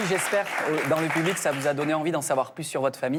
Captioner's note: applause